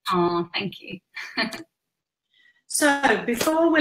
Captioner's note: laughs